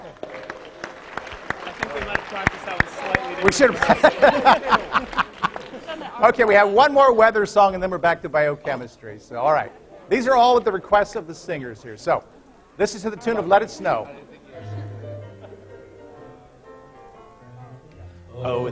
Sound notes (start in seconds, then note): 0.0 applause; 6.6 laughter